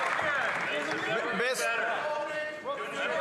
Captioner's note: some Applause